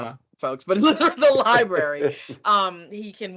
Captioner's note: laughing